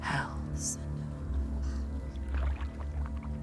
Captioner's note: whispering